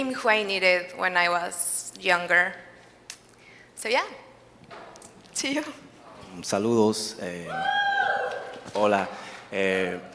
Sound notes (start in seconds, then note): 5.2 chuckles; 7.4 audience cheers